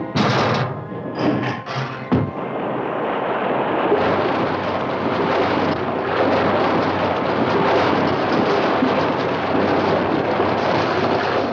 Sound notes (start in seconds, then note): 0.1 door crashing; 1.2 door thuds; 3.9 water gushing